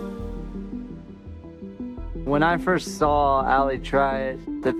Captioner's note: none